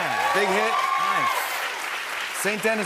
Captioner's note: cheers and applause